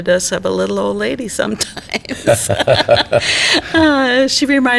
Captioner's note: all laugh